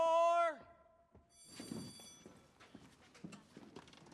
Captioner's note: bell rings